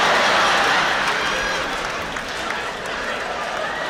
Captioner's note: laughter